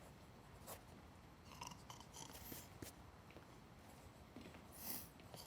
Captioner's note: snoring